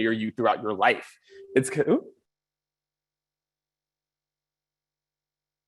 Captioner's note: monotone ring